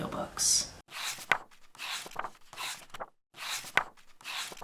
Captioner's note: pages turning